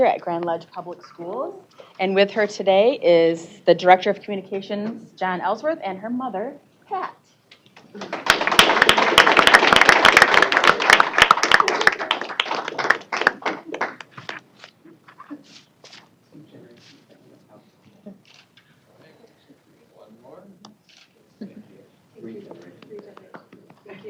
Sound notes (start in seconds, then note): 7.9 applause